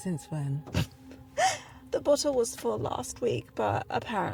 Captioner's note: snorts